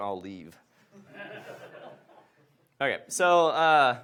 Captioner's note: audience laughs